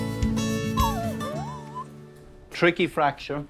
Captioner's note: bright music; Ted whimpers